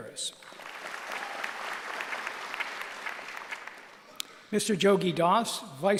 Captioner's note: applause